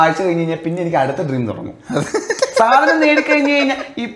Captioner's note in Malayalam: പൊട്ടിച്ചിരി